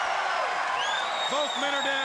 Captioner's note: audience cheering